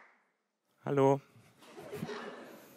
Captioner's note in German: Gelächter